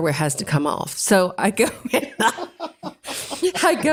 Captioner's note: laugh